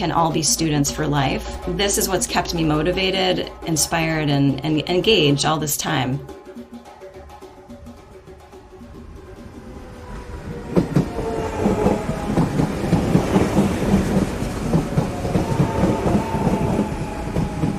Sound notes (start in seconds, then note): 6.2 rhythmic sounds of electric train pulling into station